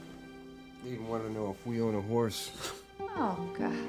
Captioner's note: scoffs